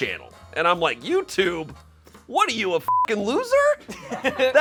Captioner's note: beep; and crew laugh